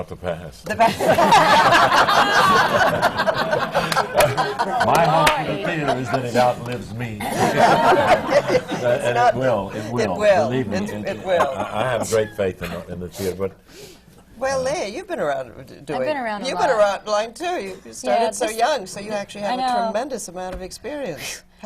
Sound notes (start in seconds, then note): 4.3 laughter